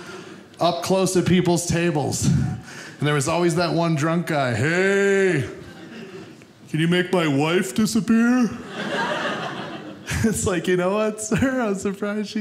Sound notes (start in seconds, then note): 8.5 audience laughing